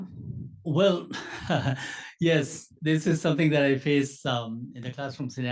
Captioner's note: laugh